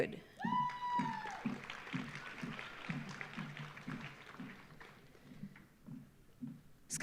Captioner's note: audience cheering; audience applauding